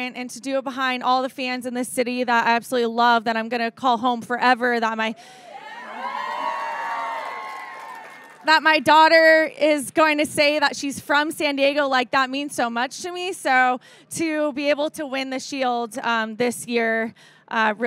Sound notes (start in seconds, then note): 5.5 audience cheering